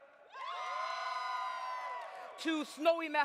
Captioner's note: audience cheers